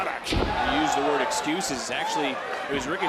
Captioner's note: crowd cheers